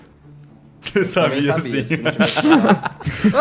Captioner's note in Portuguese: risos